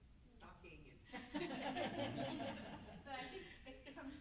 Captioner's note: group laughs